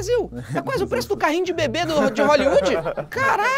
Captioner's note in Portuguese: risadas